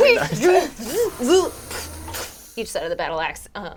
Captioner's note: imitates mechanical noises